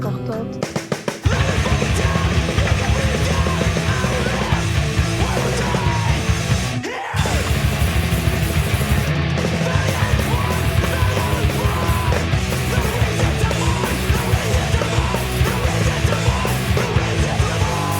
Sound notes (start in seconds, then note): 1.5 heavy metal music; 1.5 singer shouting